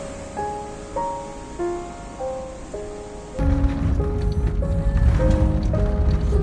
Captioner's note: sounds of cars